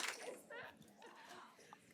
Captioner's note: shutter clicks